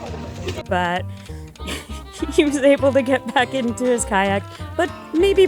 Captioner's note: laughs